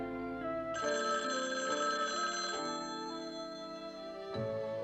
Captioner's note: phone Ringing